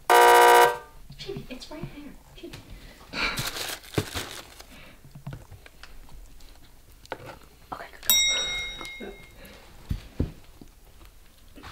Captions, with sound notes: (loud buzzer) Chibi, it's right there. (bag rustling) (ding)